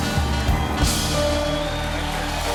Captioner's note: cheers